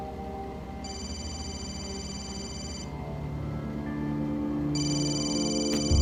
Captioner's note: phone ringing